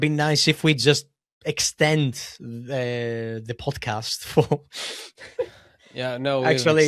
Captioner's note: laughs